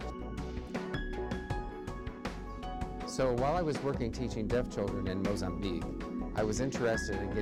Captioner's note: ASL interpreter voices